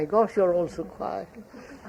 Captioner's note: laughter